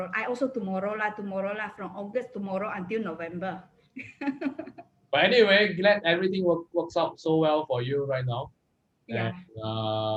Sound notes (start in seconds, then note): 4.5 laughs